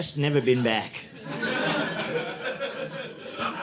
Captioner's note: audience laughing